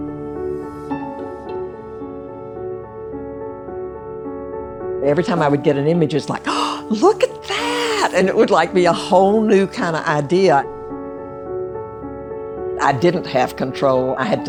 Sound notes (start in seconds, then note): 6.4 gasps